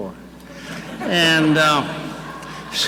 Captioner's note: audience laughing